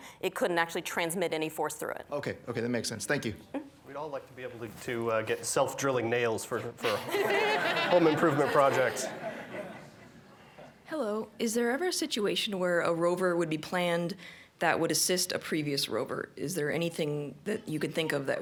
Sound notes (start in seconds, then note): 9.8 laughter